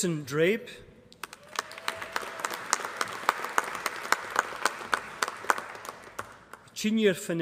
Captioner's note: applause